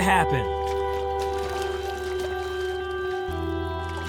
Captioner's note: water sloshing